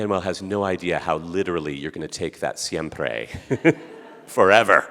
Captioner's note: speaking Spanish; laughing